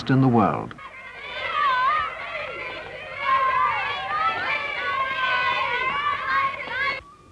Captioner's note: children laughing